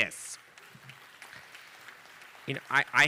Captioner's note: audience applauding